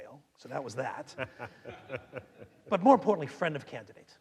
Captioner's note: laughing